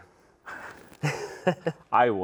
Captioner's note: both laugh